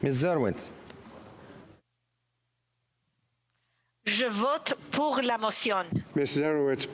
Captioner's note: speaking FRENCH